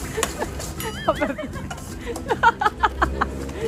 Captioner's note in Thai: เสียงหัวเราะ